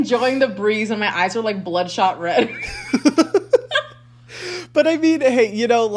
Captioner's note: laughs